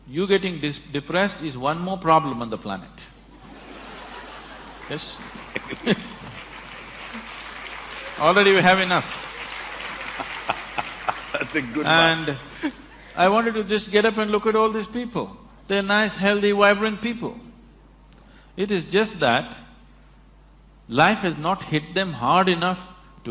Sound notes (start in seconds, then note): 3.3 laughter; 10.4 applause